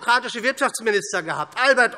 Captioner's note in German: none